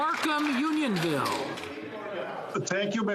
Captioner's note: some Applause